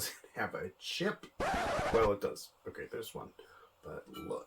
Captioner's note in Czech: Škrábání desky